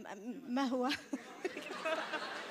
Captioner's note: more awkward laughter